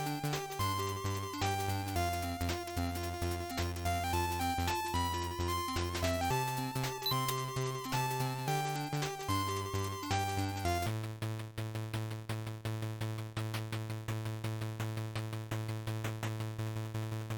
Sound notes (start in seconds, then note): 6.8 click